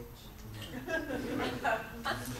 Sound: audience laughs

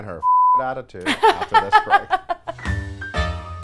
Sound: laughs

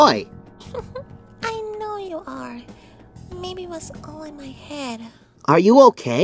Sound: chuckles

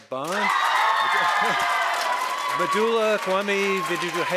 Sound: audience applauding; audience cheering

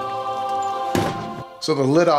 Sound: metal scraping; thumping

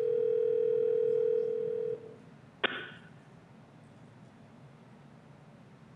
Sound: dial tone

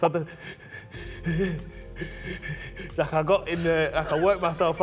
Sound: sobbing and heavy breathing

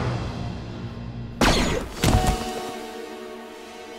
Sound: blaster fire

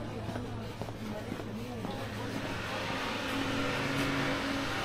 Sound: people chattering

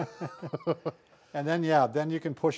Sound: laughing

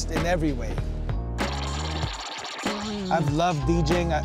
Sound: record scratching

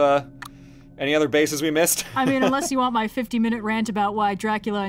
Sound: laughs

